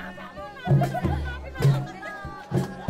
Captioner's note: indistinct chatter